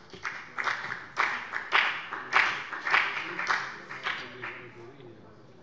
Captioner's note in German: Beifall bei der FDP